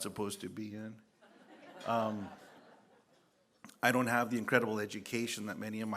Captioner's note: laughter